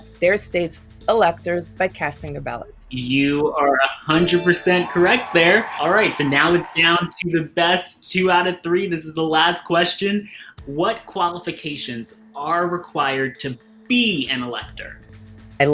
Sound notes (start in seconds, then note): 4.1 chime rings; 4.1 crowd cheers